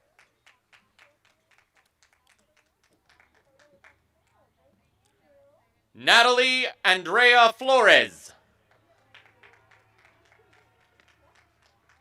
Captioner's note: applause